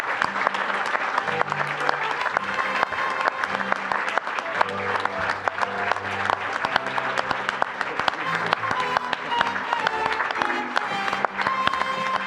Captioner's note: applause